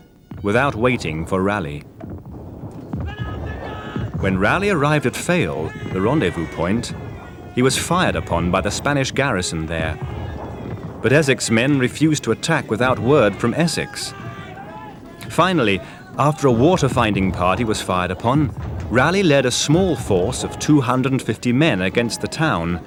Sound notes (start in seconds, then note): 1.9 cannon firing